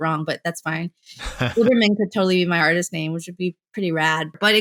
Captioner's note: laughter